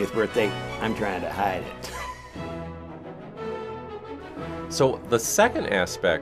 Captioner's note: giggle